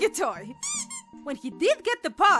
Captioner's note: squeak